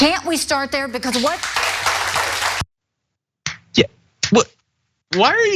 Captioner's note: applause